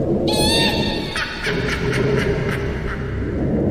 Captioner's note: woman laughing